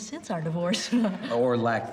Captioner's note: chuckling